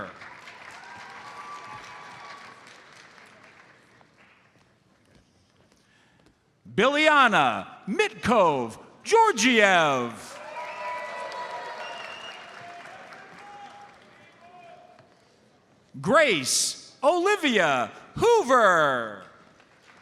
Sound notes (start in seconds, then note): 0.0 audience applauds; 10.2 audience cheers and applauds; 11.8 audience member whistles